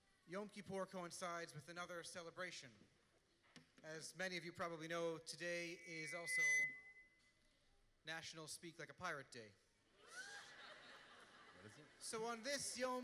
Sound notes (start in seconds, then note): 5.5 microphone feedback; 9.9 laughter